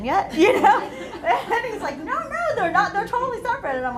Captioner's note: laughter